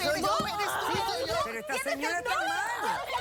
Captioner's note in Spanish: gritos y exclamaciones